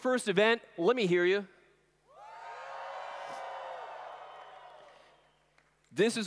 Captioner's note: cheers